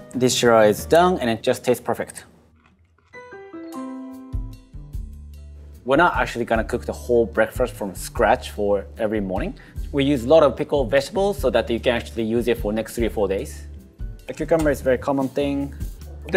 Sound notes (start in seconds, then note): 2.4 broccoli crunching; 2.5 light jazz